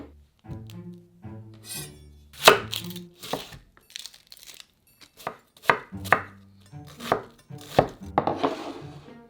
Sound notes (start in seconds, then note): 2.3 knife chop